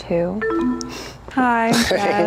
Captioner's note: bell dinging